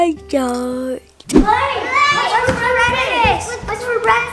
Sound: all speaking excitedly

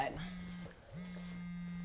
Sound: phone vibrating

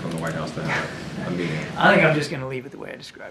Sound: laughs

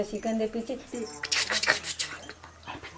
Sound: makes random sounds

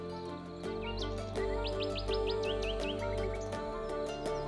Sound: birds chirping

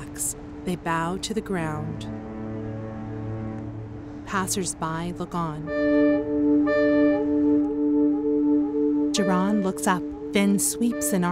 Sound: ocean waves hitting shore, fog horn

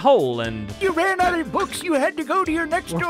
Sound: old man voice

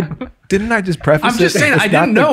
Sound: all laugh

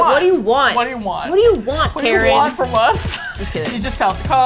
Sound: laughs

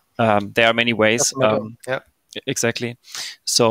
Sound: mumbles

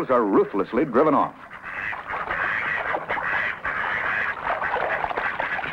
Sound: duck sounds

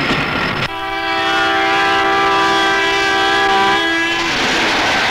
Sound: train horn blares

